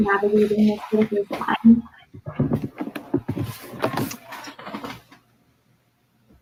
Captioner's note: radio interference drowns out speaker